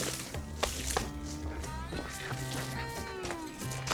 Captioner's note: hand tapping